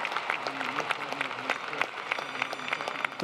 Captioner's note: applause